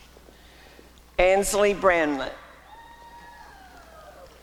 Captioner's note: applause and cheering